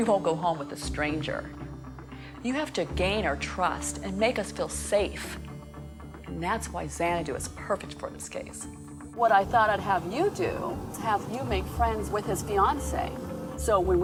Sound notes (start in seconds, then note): none